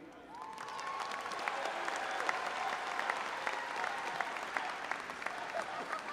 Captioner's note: all applauding and audience cheering